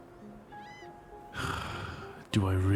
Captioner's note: sighs